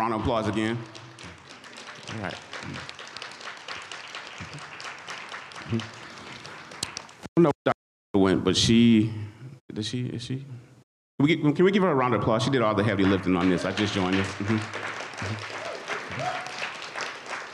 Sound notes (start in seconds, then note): 4.9 audience applauds; 17.3 audience applauds